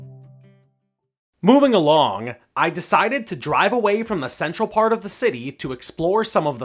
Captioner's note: voiceover